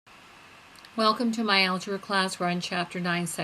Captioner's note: voiceover